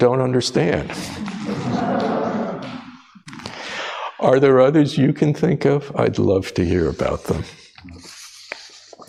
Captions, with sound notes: [Audience laughs] Are there others you can think of? I’d love to hear about them.